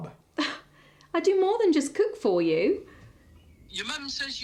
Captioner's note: scoffing